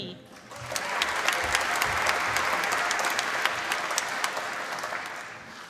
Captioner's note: applause